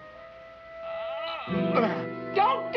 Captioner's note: grunting